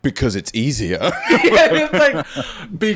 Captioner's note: laughing